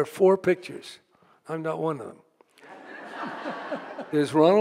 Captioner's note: audience laughing